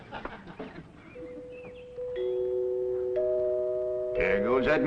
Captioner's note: doorbell rings